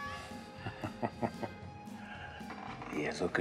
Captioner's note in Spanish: Risas